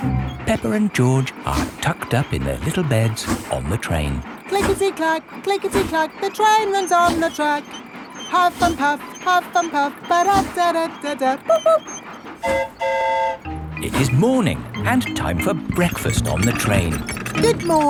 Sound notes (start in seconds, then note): 12.4 train whistle toots; 12.4 mimics train whistle